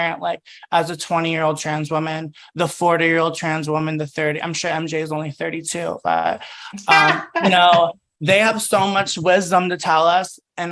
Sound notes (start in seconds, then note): 6.4 laughs